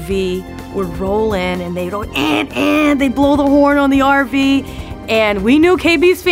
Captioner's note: imitates horn